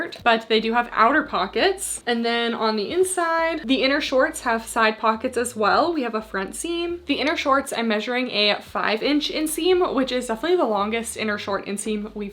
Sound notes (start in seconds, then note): none